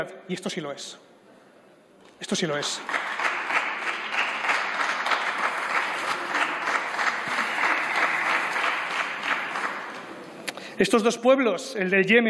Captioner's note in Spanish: Aplausos